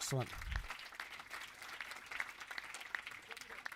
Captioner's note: applause